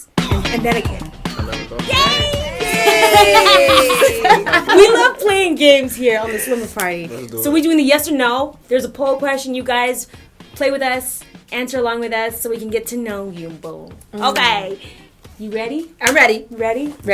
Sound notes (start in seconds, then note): 0.3 music plays; 2.6 laughter